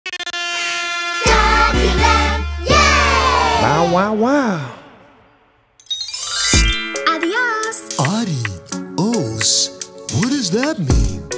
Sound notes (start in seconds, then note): 0.1 air horn honking; 5.8 bells chiming